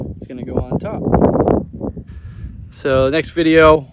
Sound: wind whirling

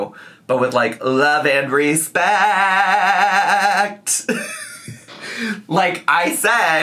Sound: laughs

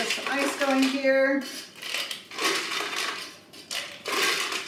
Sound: ice clanks

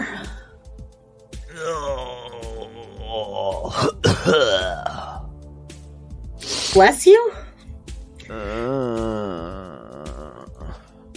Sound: coughs and sneezes wetly

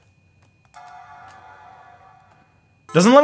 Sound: computer dings

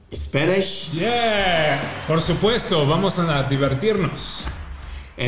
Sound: Spanish

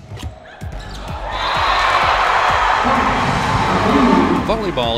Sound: cheering

